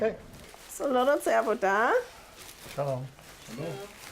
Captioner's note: speaks in foreign language